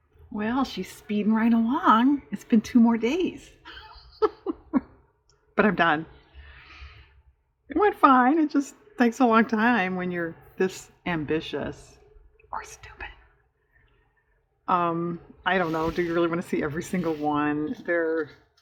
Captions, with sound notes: well, she's speeding right along, it's been two more days (laughs), but i'm done it went fine, it just takes a long time when you're this ambitious (whispers) or stupid i don't know do you really want to see every single one?